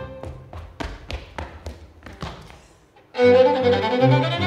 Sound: footsteps tapping

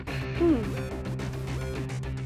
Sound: clears throat

